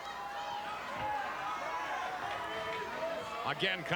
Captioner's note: audience chattering